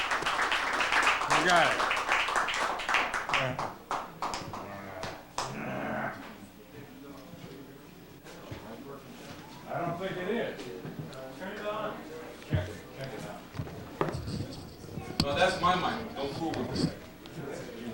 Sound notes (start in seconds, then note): 0.0 applause; 4.4 indistinct chatter